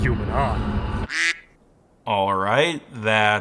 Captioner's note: soft quacking